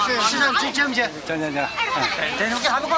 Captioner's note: non-english speech